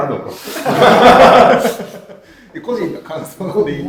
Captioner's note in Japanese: 爆笑